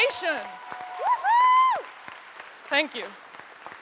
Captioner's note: audience cheers and applauds